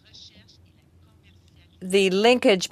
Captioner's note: speaking french